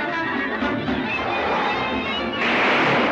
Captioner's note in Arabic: انزلاق السيارة